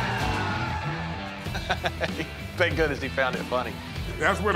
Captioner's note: laugh